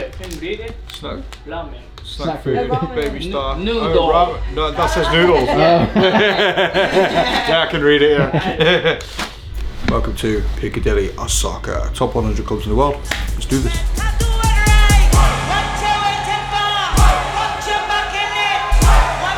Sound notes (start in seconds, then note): 5.0 laughs; 14.6 techno music